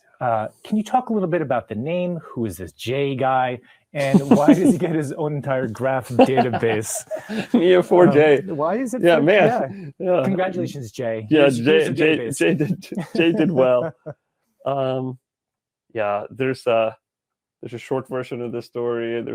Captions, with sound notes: Can you talk a little bit about the name? Who is this Jay guy, and why does he get his own entire graph database?" - (laughs) Neo4j. - Why is it Neo4j? Congratulations Jay. - Yeah, Jay did well. Yeah, there's a short version of this story,